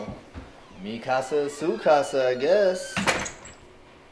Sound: closes the door

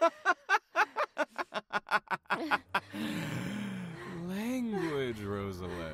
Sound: amused laugh

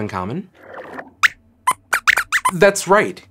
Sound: squeaks squeaks

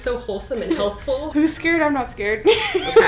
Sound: laughs

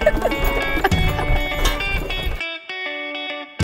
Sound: bright Latin music; laughter

